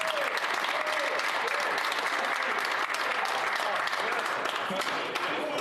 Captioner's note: applause